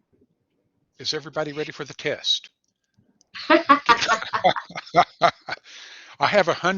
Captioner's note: laughter